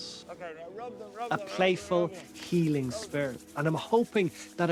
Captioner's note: voice-over